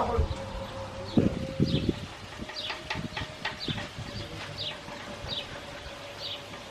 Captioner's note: birds chirping; bright music resumes